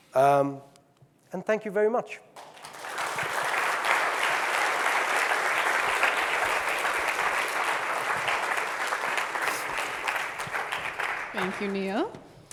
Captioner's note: audience clapping